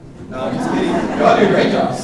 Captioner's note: audience laughing